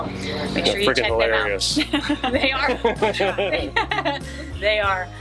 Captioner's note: laughing